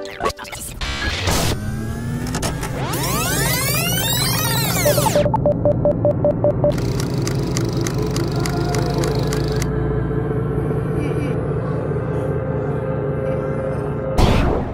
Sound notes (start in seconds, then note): 0.9 electronics powering up; 4.7 intense beeping; 7.4 clock ticking; 10.9 mysterious whirring